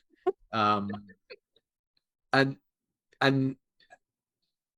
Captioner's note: laughs